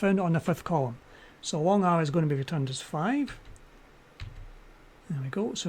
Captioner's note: typing